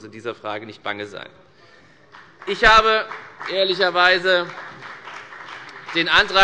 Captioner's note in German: Beifall bei der FDP und bei Abgeordneten der CDU